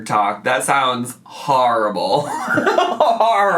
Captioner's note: laughs